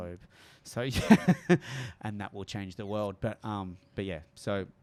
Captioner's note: chuckles